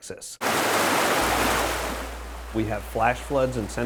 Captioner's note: water burbling